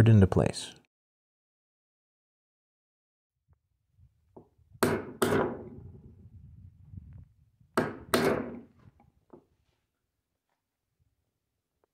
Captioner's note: hammering